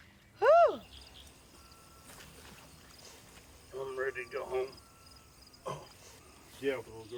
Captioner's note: birds calling